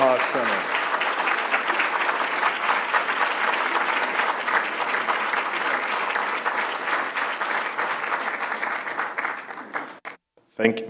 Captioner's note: applause